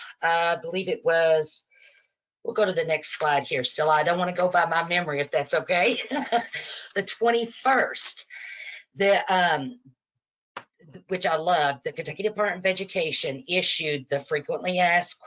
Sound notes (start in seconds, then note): 6.0 chuckles